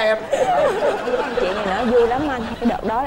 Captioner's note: laughing